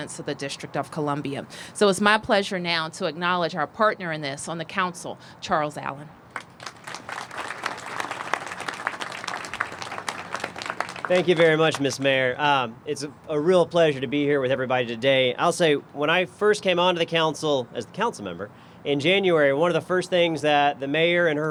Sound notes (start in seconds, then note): 8.5 applause